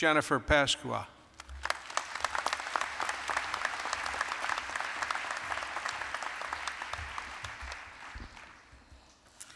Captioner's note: applause